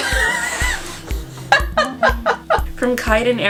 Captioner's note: wheezy wheezeeee